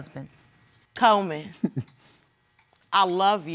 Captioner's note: chuckles